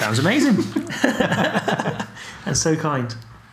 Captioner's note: laughing